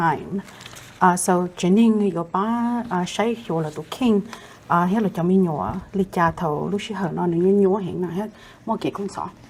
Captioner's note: Speaking in Hmong